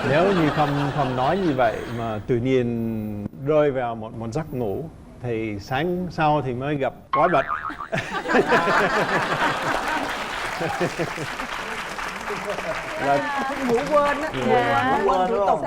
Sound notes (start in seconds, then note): 7.7 laughing and applause